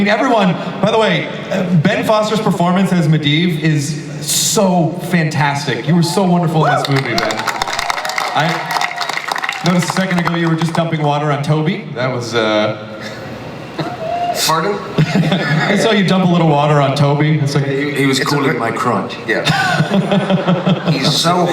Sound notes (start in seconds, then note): 6.7 audience applause; 19.4 audience laughter